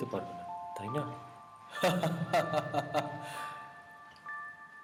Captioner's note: Tree Loughing Loud